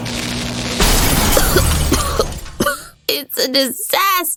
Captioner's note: coughing